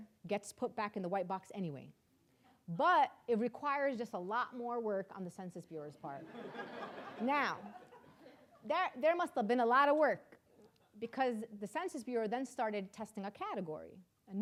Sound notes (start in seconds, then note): 6.2 audience laughing